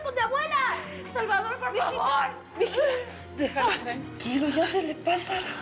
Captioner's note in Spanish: sollozos